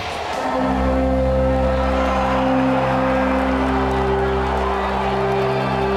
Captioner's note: crowd cheering; dramatic orchestral music